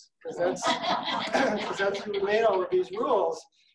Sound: audience laughing

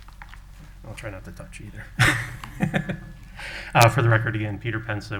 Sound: chuckling

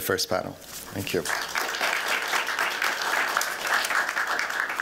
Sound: applause

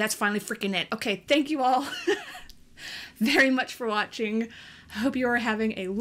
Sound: laughs

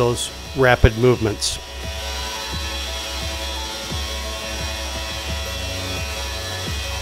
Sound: machine whirring; background music playing

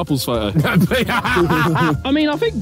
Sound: laughs

